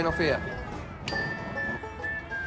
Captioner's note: ding